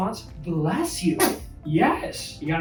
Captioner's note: baby sneezes